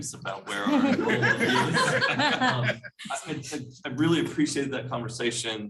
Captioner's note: laughter